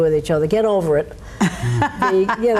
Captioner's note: laughs